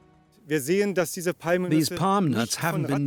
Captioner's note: man speaking German